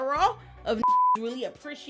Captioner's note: beep